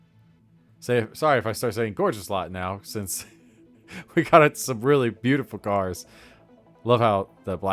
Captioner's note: small chuckle